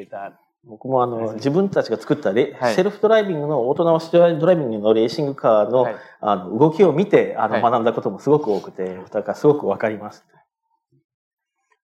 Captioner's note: speaking japanese